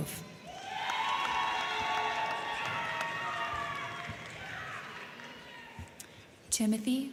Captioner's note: crowd cheering; crowd clapping